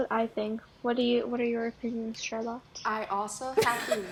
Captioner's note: cough cackle cough cough cough